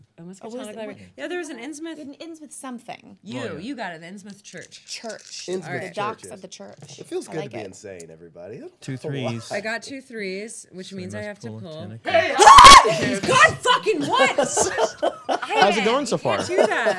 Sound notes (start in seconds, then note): 12.3 loud screaming